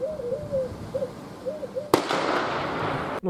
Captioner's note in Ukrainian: звук пострілу